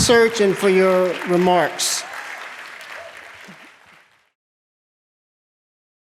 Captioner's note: applause